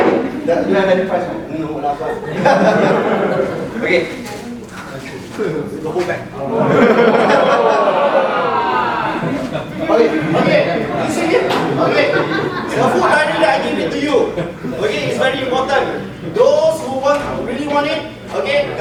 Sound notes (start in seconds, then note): 1.8 audience laughing; 6.6 audience cheering